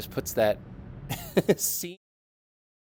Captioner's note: laughing